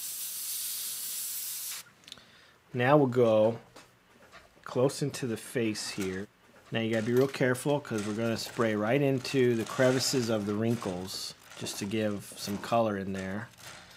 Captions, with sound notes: Now we'll go close into the face here. Now, you gotta be real careful, 'cause we're gonna spray (rattling) right into the crevices of the wrinkles just to give some color in there.